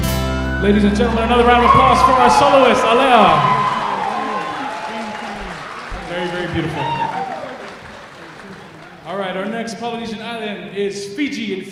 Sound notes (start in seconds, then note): 3.3 applause